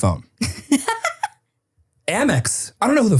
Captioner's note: person laughing